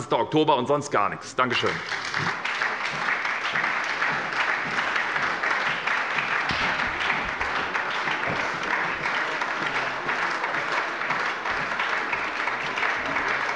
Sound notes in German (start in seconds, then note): 1.4 Anhaltender Beifall bei der SPD